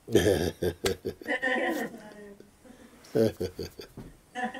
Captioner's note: laughter